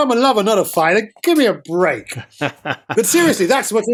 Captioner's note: laughter